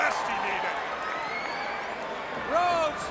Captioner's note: crowd cheering